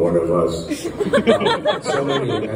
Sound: crowd laughter

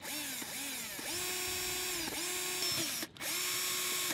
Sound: drill whirring

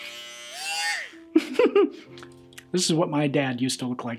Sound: laughs

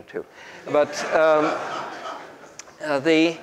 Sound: group laughs

